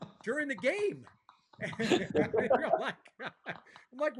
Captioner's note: laughter